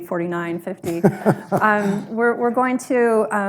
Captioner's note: laughs